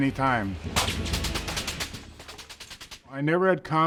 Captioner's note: automatic weapons firing